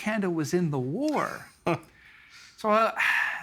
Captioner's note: chuckling